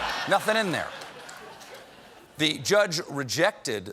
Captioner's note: laughter